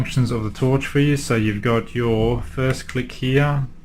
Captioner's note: clicks button